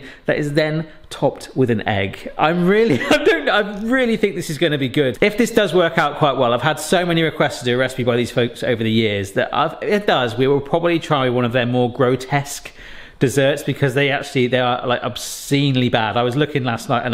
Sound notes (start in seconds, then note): 2.8 laughs